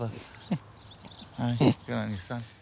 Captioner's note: they both laugh